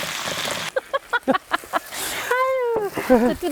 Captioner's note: laughs